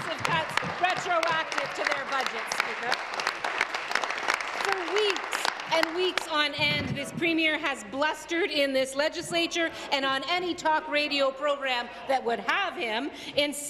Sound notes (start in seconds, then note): 7.6 applause